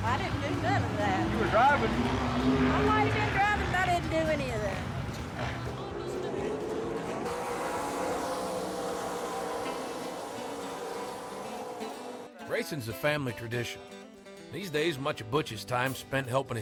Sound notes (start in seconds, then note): 6.4 cars whooshing; 9.0 calm music